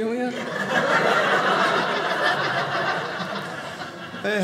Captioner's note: audience laughing